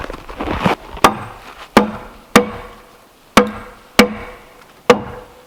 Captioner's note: hammer thudding